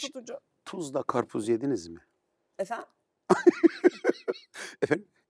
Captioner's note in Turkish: kahkaha